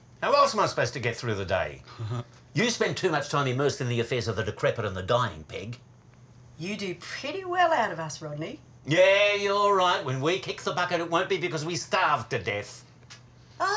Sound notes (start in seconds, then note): 1.9 chuckles